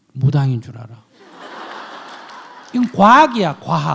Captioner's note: audience laughs